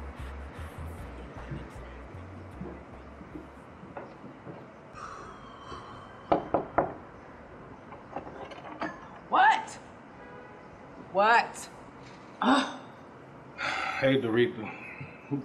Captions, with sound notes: (light knocking) - What? What? (scoffs) - Hey Doretha.